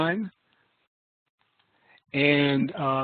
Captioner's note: silence